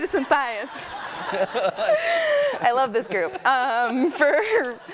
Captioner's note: audience laughing; man laughing; gasping